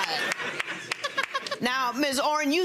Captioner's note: audience laughs